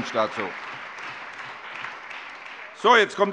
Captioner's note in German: Allgemeiner Beifall